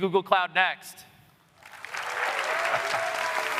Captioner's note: applause